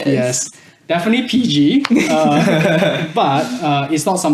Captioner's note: laughs